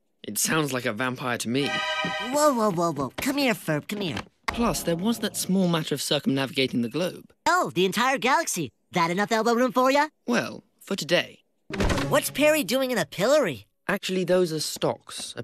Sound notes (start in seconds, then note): none